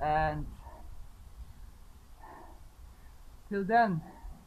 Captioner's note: breathing heavily